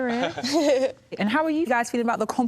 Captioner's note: laughter